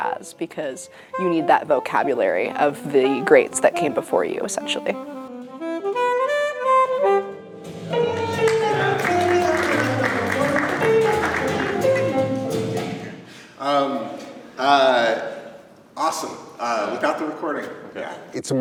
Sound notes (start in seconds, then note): 5.2 jazz alto saxophone solo; 8.0 clapping